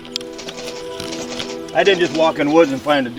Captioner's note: beaver gnawing